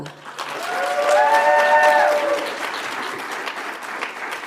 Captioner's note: audience applauds